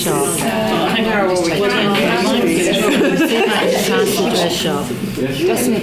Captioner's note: participant chatter